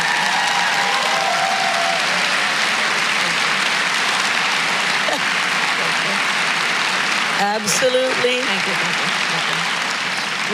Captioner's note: applause